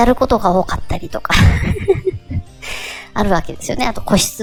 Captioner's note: laugh